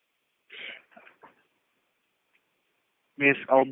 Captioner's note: silence